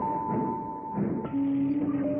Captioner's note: railroad sound